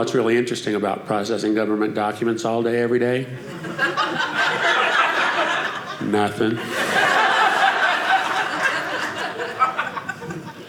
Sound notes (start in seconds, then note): 4.8 audience laughing